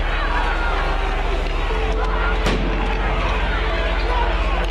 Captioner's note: crowds shouting